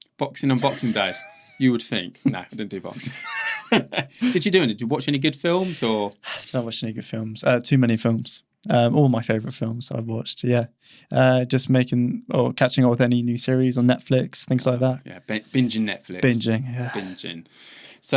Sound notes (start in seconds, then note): 0.4 laughing; 3.4 both laughing